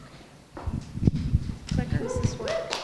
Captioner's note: applause